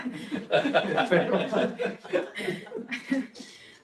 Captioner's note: audience laughs